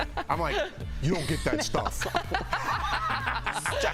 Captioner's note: laughter